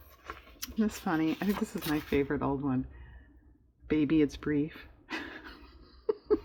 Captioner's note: laughs